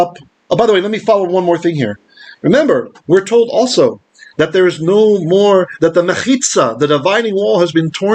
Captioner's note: Hebrew